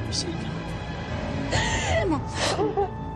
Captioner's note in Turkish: Ağlıyor